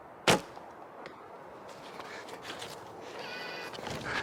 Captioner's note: bow thumps